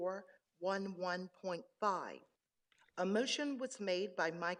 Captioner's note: none